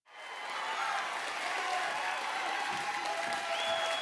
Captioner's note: audience applauding